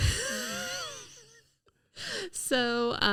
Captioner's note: laughing